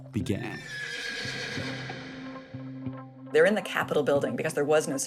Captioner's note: soundbite of horses neighing